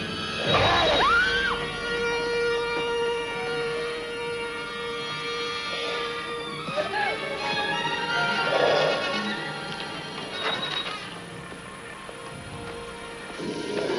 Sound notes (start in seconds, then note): 0.4 screaming; 4.5 tense theme music; 8.8 deep breathing